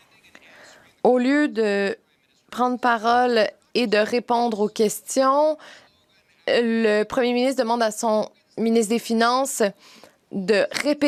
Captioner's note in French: voix de l'interprète